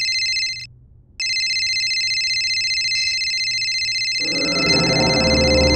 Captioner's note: continuous ringing